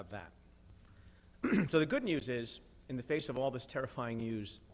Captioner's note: clears throat